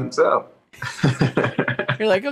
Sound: laughing

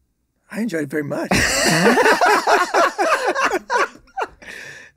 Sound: all laughing

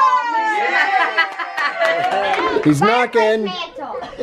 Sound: group cheers

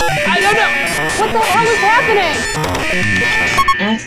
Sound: computer beeps, screeches; alarm blares

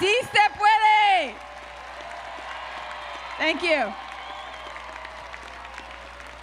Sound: applause

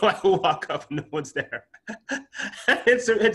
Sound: laughs

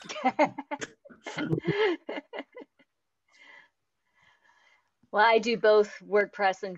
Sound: laughs

